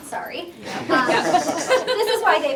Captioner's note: laughter